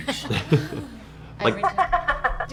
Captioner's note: laughs